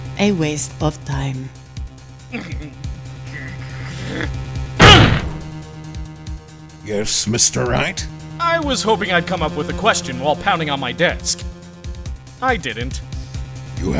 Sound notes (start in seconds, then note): 4.8 growling; 4.8 grunts!